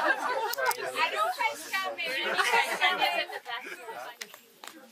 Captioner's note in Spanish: risas